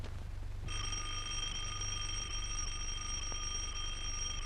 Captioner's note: doorbell rings